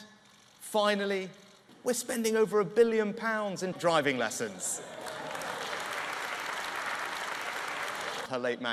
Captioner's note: laughter and applause